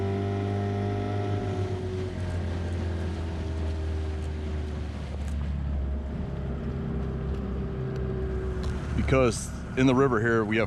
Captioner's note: boat engine running